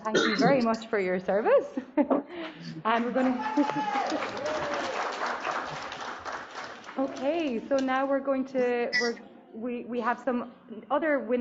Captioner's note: applause